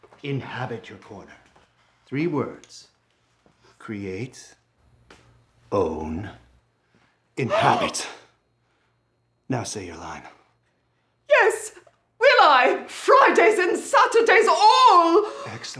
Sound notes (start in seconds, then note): 7.5 gasps